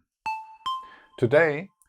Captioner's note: notes sound